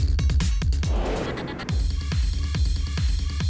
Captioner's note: whoosh